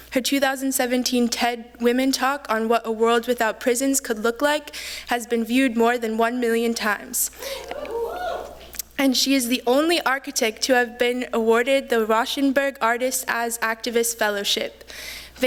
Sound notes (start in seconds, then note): 7.4 cheers